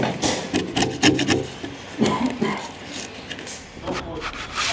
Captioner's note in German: Jemand hustet im Hintergrund